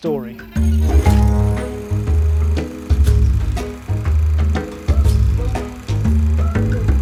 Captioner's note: upbeat music; film reel whirling